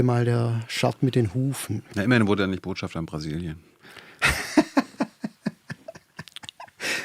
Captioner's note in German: gelächter